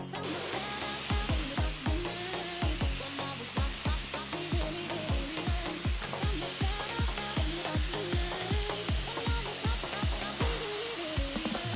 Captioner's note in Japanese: 塗装音